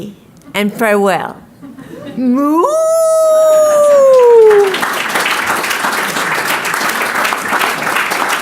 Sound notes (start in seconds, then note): 2.3 speaker mooing; 5.0 audience clapping